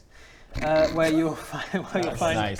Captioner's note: snickers